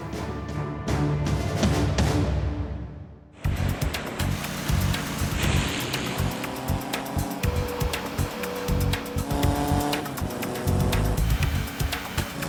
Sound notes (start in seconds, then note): 3.4 airboard whirring; 3.4 upbeat energetic music